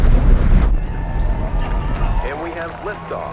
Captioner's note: crowd cheering